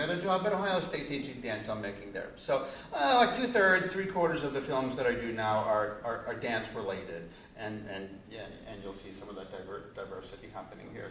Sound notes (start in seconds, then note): none